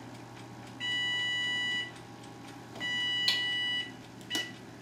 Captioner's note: timer beeps